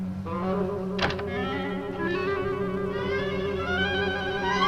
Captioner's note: suspenseful orchestral music; door closes